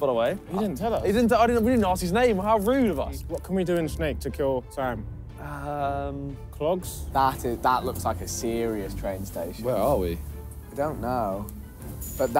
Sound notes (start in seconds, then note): none